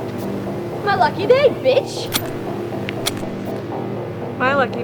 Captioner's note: gun clicks